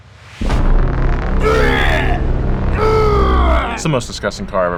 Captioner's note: gagging loudly